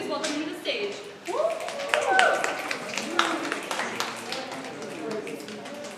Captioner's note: audience applause